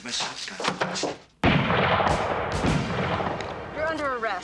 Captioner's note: gun firing